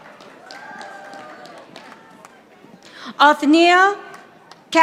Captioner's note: audience applauding